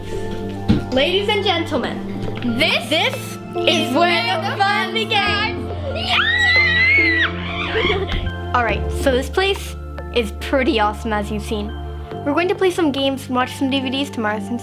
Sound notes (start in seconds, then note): 5.8 Candice and emelie screaming